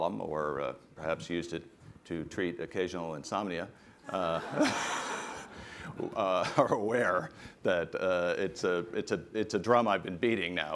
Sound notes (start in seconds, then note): 4.1 laughter